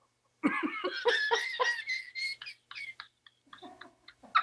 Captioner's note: both laughing